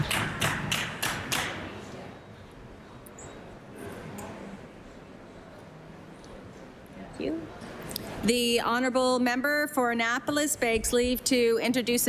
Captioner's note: applause